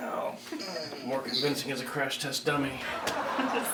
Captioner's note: smack